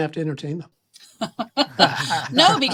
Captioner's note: laughs